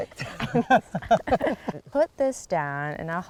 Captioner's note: laughter